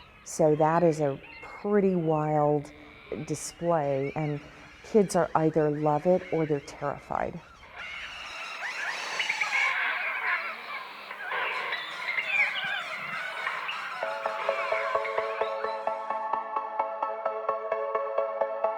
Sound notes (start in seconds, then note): 9.2 loud bird calls; 14.6 techno music